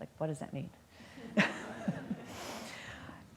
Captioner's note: laughter